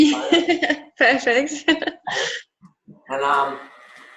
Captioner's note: laughs